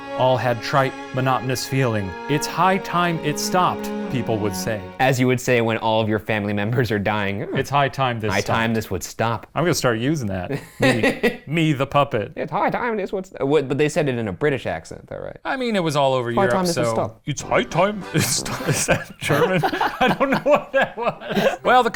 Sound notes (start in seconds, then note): 10.5 laughs; 17.5 laughs